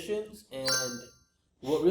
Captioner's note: bell chimes